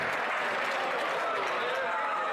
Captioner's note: some Applause